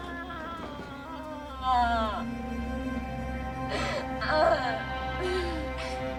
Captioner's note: sobbing